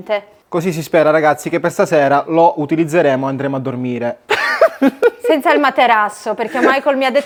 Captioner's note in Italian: risate